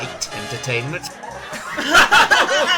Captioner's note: everybody laughs